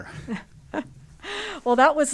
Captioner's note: laugh